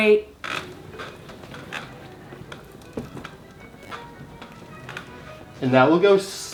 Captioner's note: chair squeaks; classical music